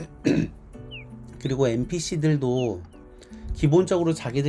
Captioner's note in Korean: 목을 가다듬음